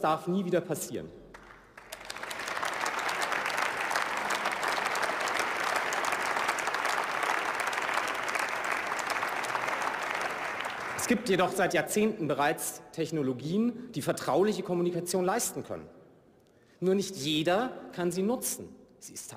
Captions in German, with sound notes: So etwas darf nie wieder passieren. (Beifall) Es gibt jedoch seit Jahrzehnten bereits Technologien, die vertrauliche Kommunikation leisten können. Nur nicht jeder kann sie nutzen.